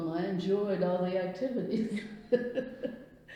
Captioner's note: laughs